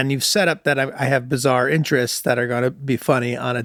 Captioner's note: none